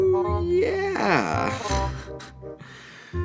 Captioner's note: chuckles uncomfortably